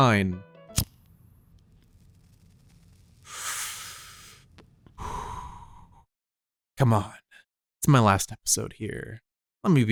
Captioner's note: cuts music, followed by cigarette puff sound